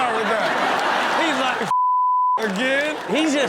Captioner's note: audience laughs; beep